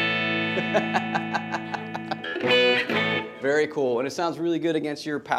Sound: laughs

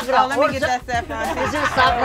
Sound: group chatter

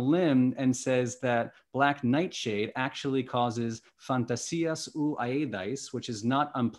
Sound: non-english speech

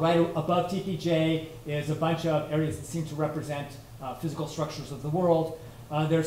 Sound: none

